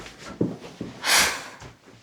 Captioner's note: sigh